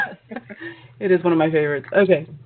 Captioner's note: laughter